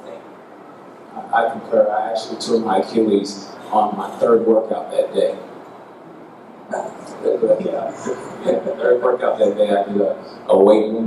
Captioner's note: third workout- gasps!